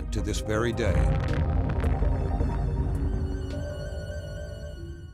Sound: explosion

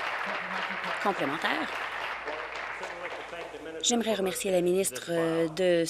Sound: applause

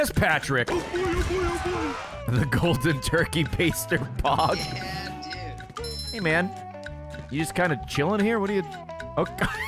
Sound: laughs; laughs

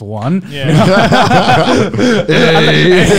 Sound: laughing loudly

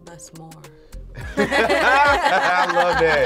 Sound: group laughing

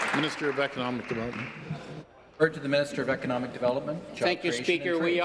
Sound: applause

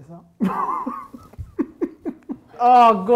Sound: laughing

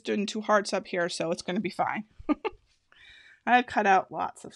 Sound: laughing

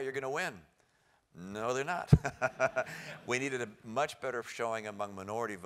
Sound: laugh

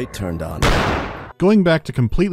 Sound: pow

